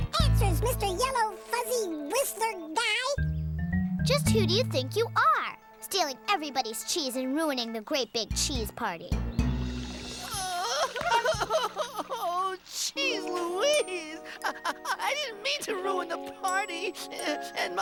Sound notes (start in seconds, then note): 10.2 sobbing